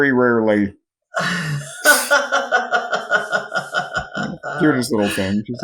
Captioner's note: laughs